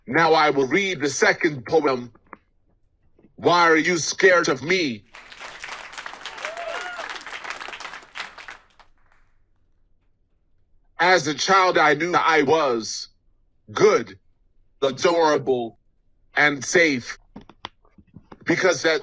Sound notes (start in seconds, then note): 6.8 audience applauds